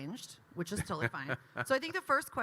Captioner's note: Kyle laughing